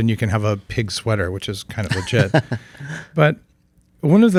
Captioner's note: laughs